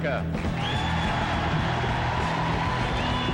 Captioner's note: cheering